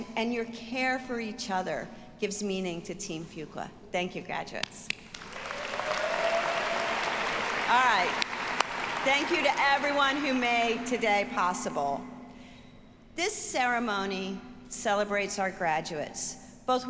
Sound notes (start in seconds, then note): 5.1 audience applauding